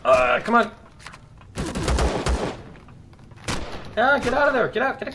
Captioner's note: turret firing; pistol firing; gun clicking